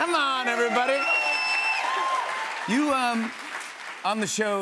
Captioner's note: cheers and applause